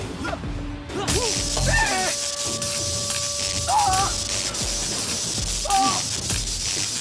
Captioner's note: characters grunting; robust music; character yelps; taser zapping